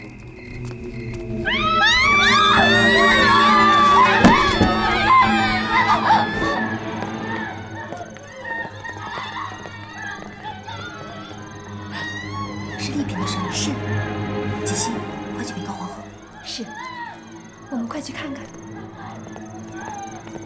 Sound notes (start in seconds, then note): 4.8 crowd shouting